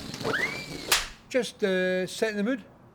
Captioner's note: splatting